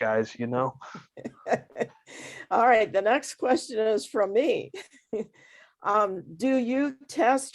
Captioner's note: chuckle